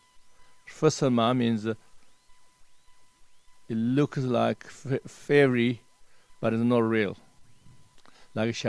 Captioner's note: tibetan